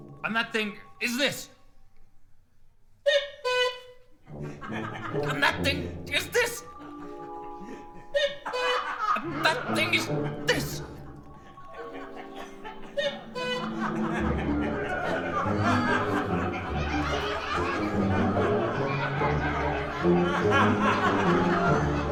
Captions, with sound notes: And that thing is this, (Merrill squeaks cuckoo) (audience chuckles) And that thing is this, (Merrill squeaks cuckoo) (audience laughing) That thing is this, (Merrill squeaks cuckoo) (audience laughing) (audience laughing)